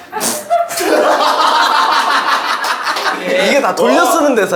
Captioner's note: ha ha ha ha ha